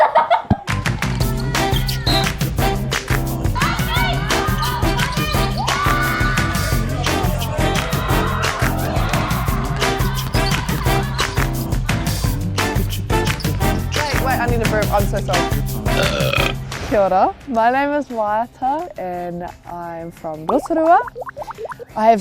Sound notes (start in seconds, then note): 0.0 laughs; 2.0 playful music; 3.6 players shouting indistinctly; 7.0 playful music; 7.9 players scream; 10.6 playful music; 15.9 burps